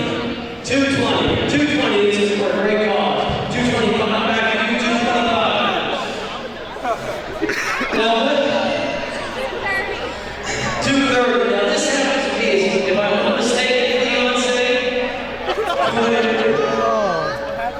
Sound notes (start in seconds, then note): 6.2 crowd Noise